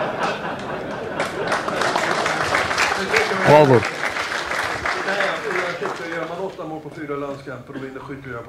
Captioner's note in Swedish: Skratt; Applåder